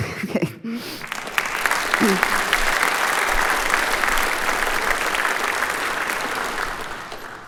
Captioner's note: applause